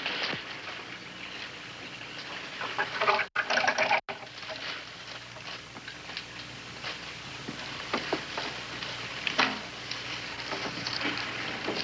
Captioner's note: door shutting